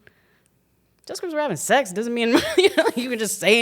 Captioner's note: chuckles